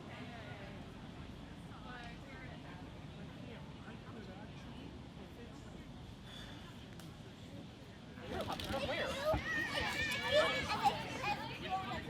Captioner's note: wind in the leaves